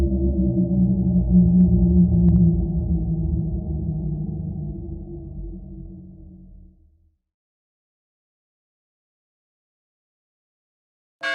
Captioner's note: bell Ringing